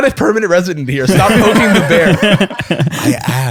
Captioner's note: laughter